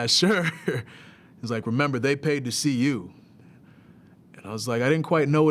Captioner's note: laugh